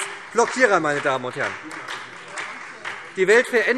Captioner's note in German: Beifall SPD und Freie Demokraten